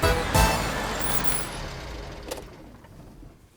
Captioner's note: car engine shuts off